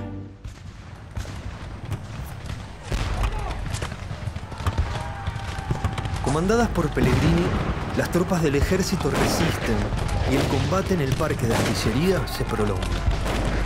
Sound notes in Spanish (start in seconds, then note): 0.7 Explosiones, disparos